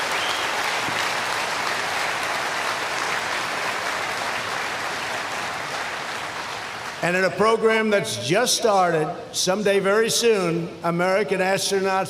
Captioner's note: applause